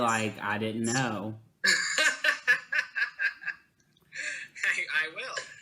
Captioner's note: laughing